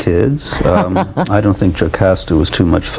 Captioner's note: laughs